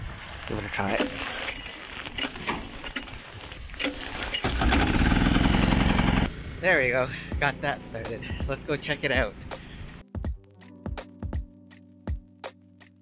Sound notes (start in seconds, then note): 1.1 crank being pulled; 3.8 engine starting; 10.1 soothing music